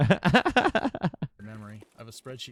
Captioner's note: laughing